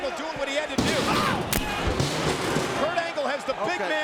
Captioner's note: stair clatters